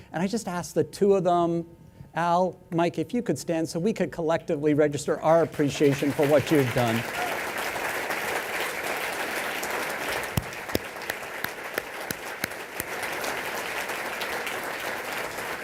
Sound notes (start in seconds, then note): 7.6 applause